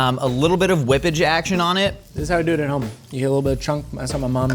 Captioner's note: none